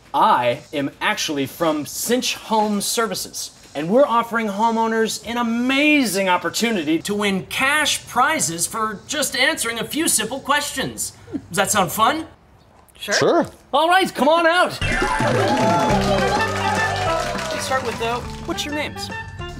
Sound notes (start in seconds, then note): 14.8 cheering and applause; 14.8 upbeat music